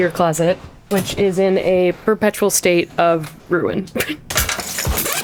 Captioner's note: chuckles